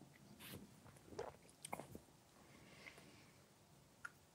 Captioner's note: gulping shots